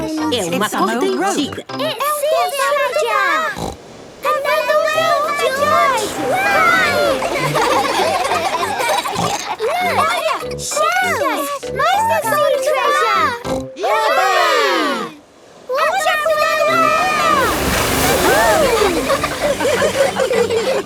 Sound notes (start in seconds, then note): 4.6 laughs; 9.1 snort